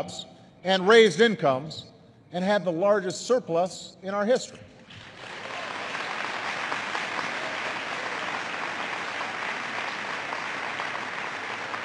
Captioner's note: applause